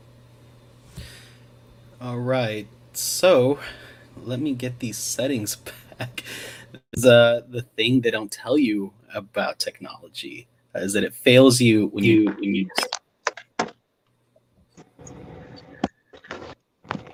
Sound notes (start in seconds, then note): 6.3 laughs